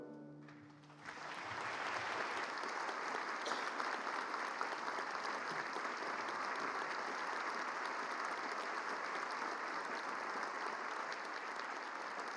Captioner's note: applause